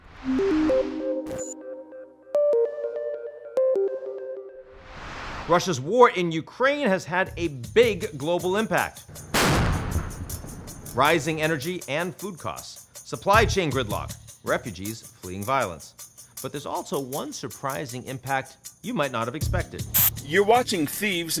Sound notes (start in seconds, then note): 0.2 mysterious electronic music; 9.2 shell blasts; 9.3 mellow music